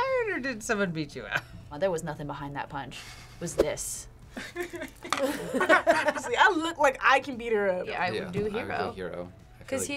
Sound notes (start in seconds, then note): 4.4 laughs